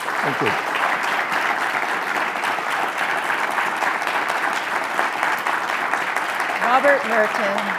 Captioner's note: applause